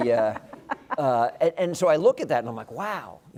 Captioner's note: laugh